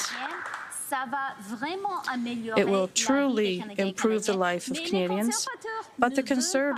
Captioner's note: some Applause